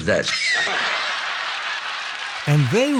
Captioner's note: audience laughs